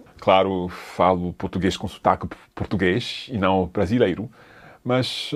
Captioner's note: speaks in foreign language